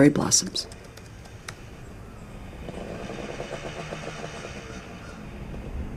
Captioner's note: sound of motorcycle stopping outside